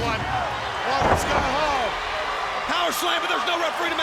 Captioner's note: crowd cheering